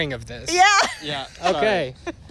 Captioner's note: laughter